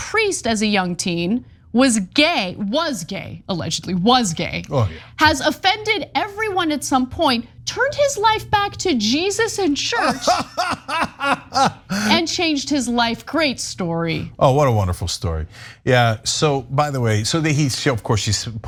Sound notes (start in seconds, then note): 9.9 laugh